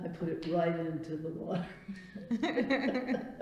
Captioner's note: laughs